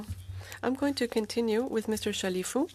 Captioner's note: speaking in French